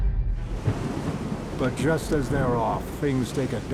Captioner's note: thunder rumbles; wake hisses